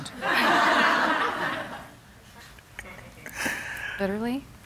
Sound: laughter

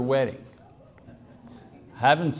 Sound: congregation murmurs

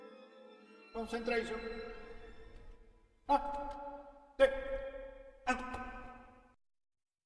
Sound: man speaking a European language

